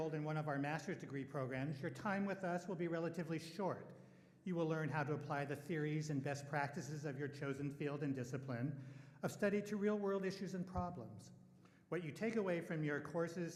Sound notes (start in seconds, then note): none